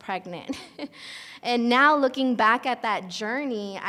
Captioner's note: laughs